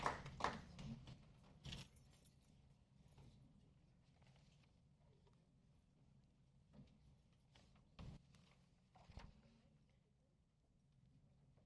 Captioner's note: applause